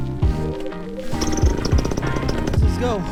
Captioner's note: motor revving